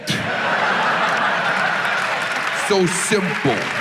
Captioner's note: audience laughs